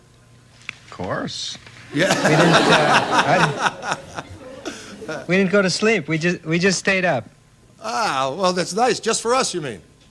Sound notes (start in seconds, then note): 1.9 Don & Audience Laughs